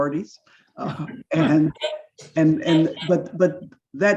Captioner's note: laughs